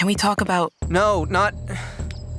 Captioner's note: sighs